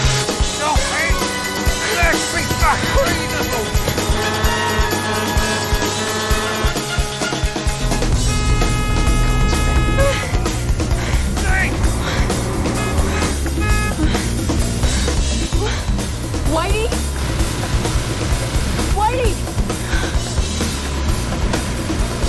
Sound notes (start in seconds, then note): 0.1 shouting; 3.9 horn honking; 12.6 horn honking